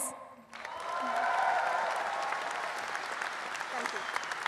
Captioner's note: audience applauding